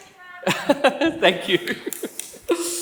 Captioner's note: laughs